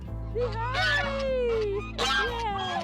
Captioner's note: goose squawking